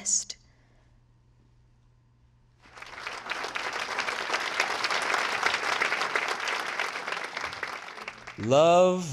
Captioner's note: applause